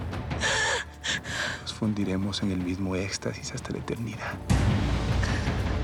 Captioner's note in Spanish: Sollozos